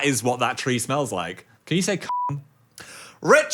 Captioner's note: beeps